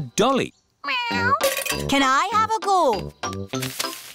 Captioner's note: meows